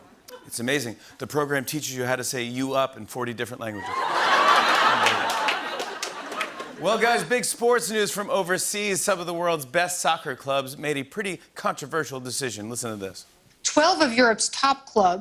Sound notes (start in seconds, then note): 3.8 laughter